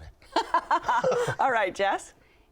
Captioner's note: laughs